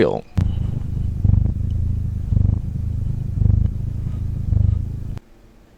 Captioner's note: cat noises